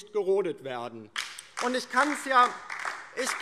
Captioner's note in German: Beifall DIE LINKE